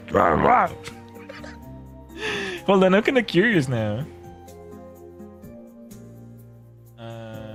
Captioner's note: laughter